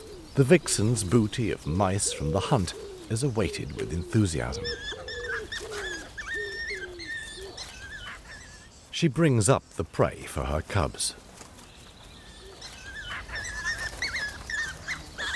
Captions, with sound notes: The vixen's booty of mice from the hunt is awaited with enthusiasm. [cubs whining] She brings up the prey for her cubs. [cubs whining]